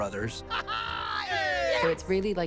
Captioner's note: laughs